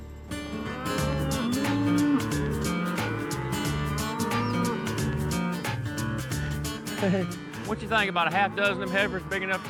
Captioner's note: mooing